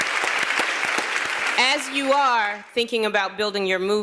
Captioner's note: applause